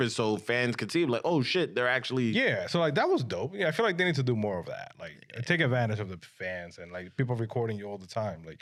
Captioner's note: none